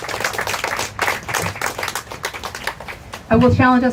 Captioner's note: applause